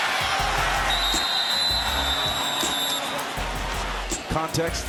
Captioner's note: whistles